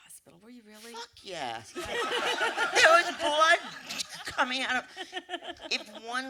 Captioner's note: laughter